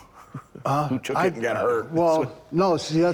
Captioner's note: laughing